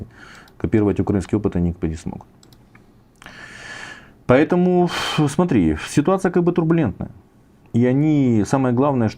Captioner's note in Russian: тяжело вздыхает